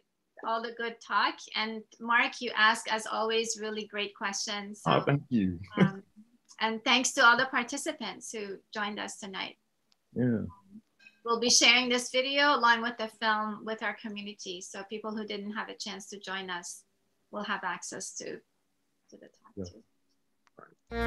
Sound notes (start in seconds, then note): 5.6 giggles